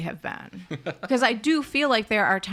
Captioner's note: laughs